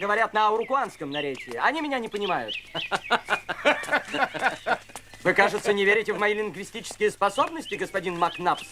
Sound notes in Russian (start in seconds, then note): 2.7 смех